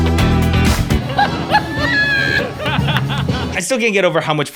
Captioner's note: audience laughs